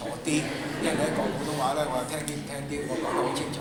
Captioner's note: laughter